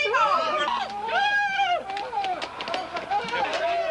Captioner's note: students shouting